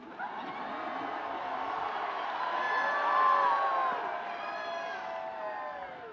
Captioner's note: students cheering and screaming